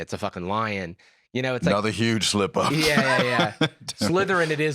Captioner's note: laughs